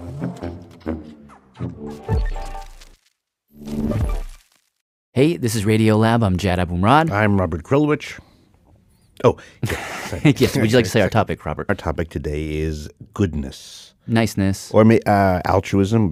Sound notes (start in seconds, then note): 9.6 laughs